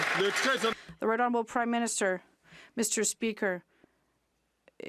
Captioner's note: some Applause